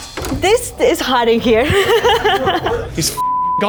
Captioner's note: laughs